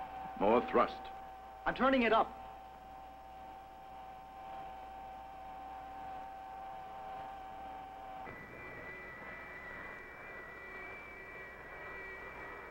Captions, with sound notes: - More thrust. - I'm turning it up. (engine roars)